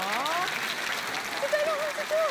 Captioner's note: applause